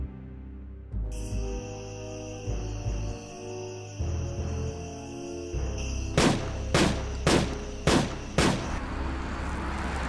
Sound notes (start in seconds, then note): 1.2 ominous music; 6.1 gunshots